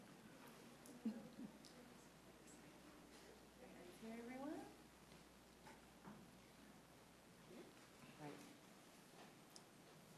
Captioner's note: laughter